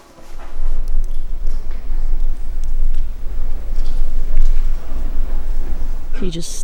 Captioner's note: water dripping